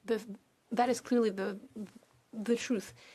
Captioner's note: speaking French